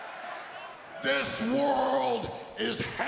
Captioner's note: crowd cheering